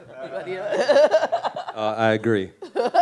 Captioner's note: laughs